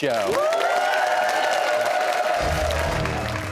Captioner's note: cheers and applause